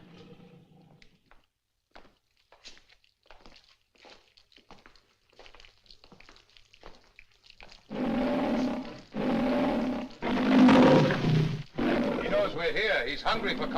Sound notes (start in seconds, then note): 7.9 growling, Roaring